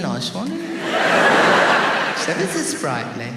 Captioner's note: audience laughs